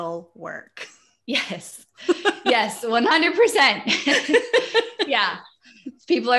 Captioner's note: laughs